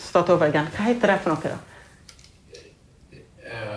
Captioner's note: speaking in Norwegian